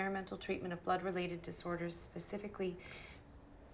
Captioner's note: inhales sharply